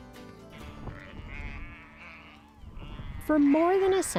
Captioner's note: sheep bleat